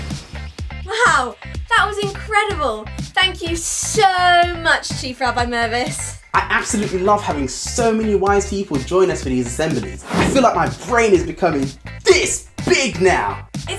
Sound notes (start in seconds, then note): 0.1 upbeat music; 9.9 air whooshes